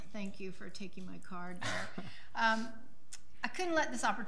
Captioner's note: laughing